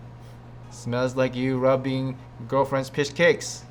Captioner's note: sniffs